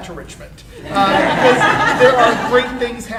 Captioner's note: audience laughing